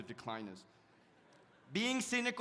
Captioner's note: audience laughs